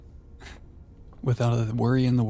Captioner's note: laughs